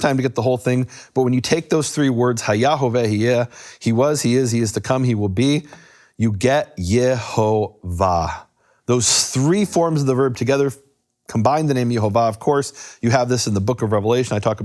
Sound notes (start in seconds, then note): 2.4 speaks in foreign language